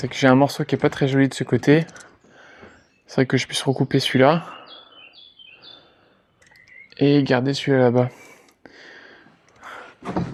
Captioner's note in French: soupir